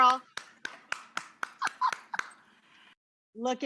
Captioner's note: Rachael claps and chuckles